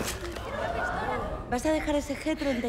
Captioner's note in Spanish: gritos de asombro